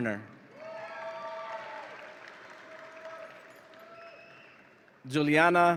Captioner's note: audience applauds and cheers